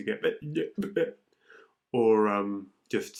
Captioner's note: man speaks gibberish